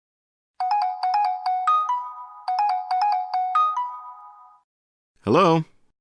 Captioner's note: cell phone rings